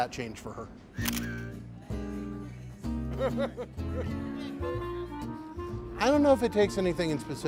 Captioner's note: shutter clicks; mellow band music